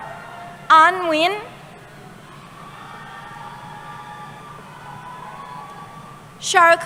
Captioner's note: cheering